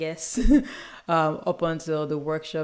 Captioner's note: chuckles